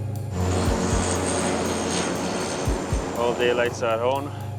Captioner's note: plane engine roars